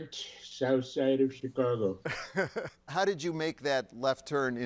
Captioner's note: laughs